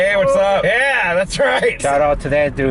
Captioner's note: faintly yelling